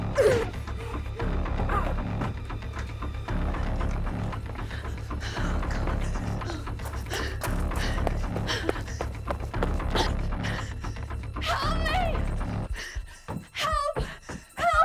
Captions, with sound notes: [grunts] [panting] - Help me! Help, help!